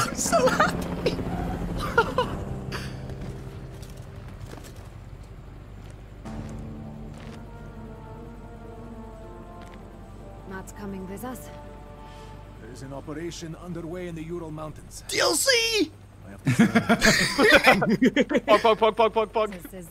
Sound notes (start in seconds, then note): 1.7 giggles; 16.4 laughs